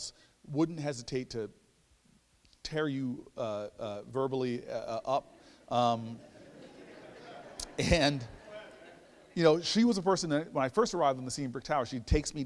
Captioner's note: laughter